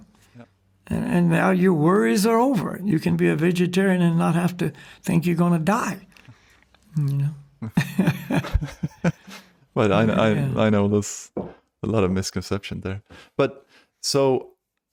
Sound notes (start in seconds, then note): 7.6 laughs